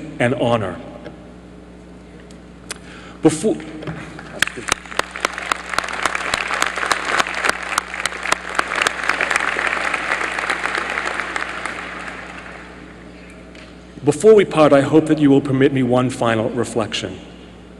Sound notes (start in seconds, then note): 4.2 applause